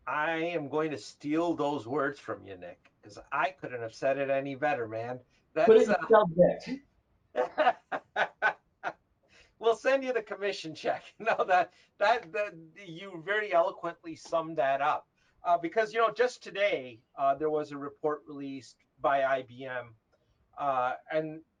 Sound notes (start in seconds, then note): 7.4 laughs